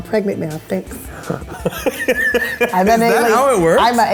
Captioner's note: laughing